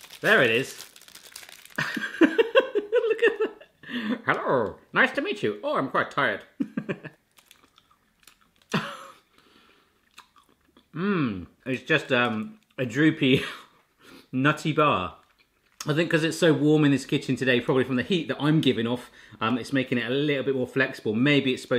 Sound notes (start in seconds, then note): 1.8 laughs; 6.6 laughs; 7.4 chewing